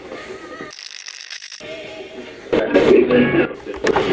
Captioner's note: radio channel changing; radio scratching